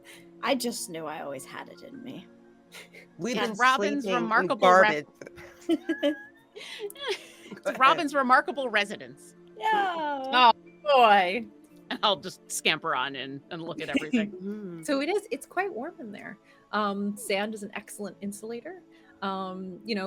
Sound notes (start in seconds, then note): 5.1 all laughing